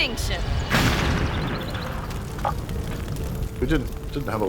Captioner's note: piano explodes